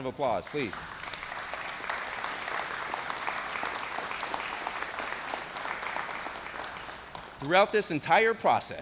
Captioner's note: applause